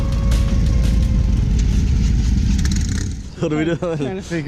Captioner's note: engine revving